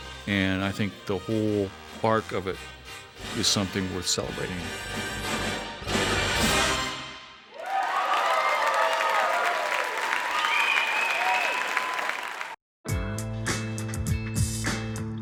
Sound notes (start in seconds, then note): 7.6 clapping; 12.9 strong bass music